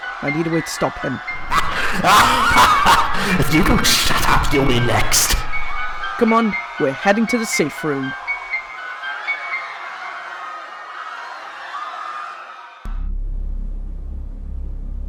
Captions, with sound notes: I need a way to stop him. (LAUGHTER) If you don’t shut up, you’ll be next. Come on, we’re heading to the safe room!